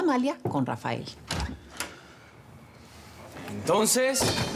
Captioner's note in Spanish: Sonido al abrir la puerta